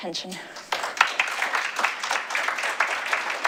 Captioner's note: applause